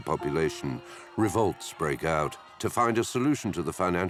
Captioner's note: crowd shouting